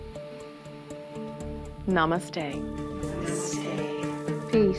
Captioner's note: all breathe deeply